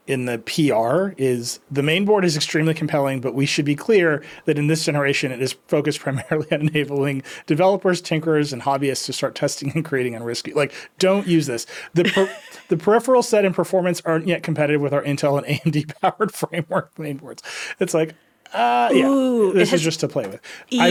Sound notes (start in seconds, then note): 12.0 laughing